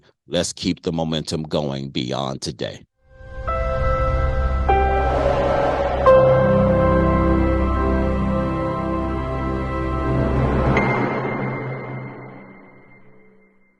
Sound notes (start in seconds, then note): 3.3 bright music; 5.1 air whooshes; 6.2 bright music continues